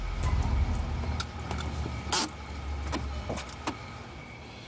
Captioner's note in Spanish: Sonido del carro